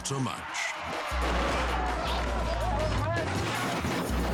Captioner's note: metal crashing; car crashing